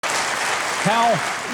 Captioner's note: audience applauding